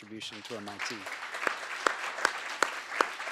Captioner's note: applause